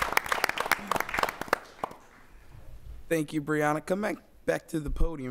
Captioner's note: applause